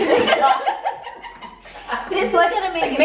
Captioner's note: both giggling